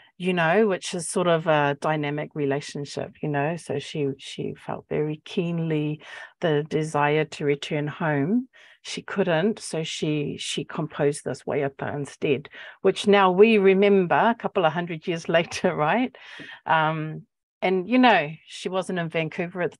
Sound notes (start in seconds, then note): 11.2 speaking Maori